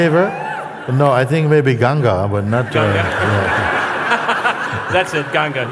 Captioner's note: risas